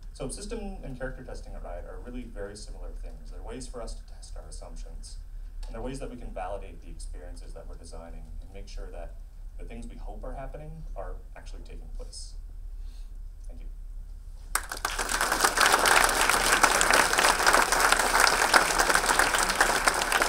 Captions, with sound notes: So system and character testing are really very similar things. There are ways for us to test our assumptions and there are ways that we can validate the experiences that we're designing and make sure that the things we hope are happening are actually taking place. Thank you. (audience clapping)